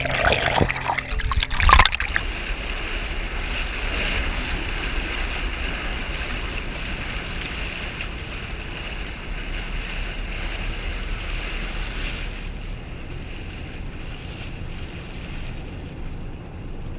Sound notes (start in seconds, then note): 2.5 rushing flow of water, barge engine